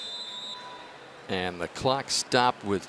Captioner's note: whistle